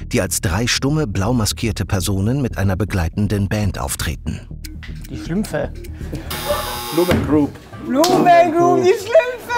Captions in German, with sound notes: Die Schlümpfe. (Auflachen) Blue Man Group. Blue Man Group! Die Schlümpfe!